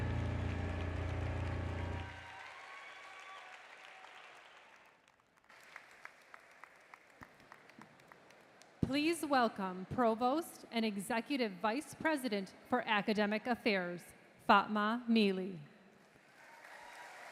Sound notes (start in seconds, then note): 2.9 applause